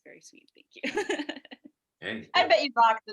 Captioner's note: laughs